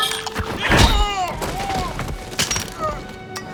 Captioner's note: groans